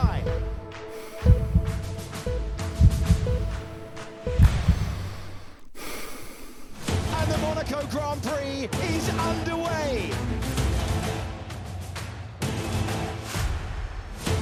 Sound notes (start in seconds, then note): 0.0 slowing heartbeat; 0.0 heavy breathing; 4.9 single hard deep breath